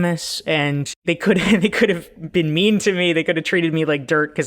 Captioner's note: laughs